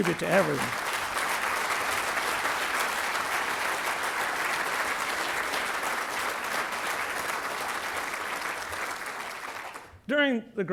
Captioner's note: applause